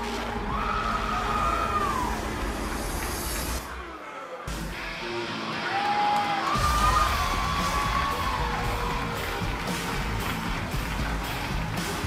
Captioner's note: crowd cheering